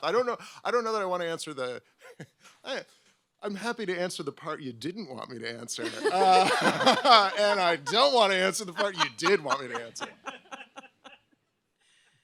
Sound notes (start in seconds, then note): 5.8 all laugh